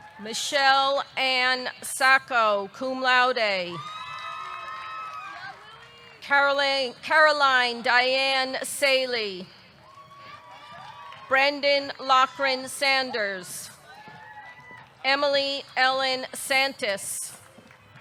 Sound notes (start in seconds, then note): 3.8 audience cheering; 9.7 audience clapping; 9.8 audience cheering; 13.8 audience cheering